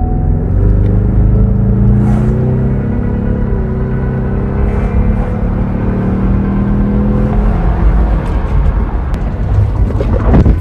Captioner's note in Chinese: 汽車加速嘅聲音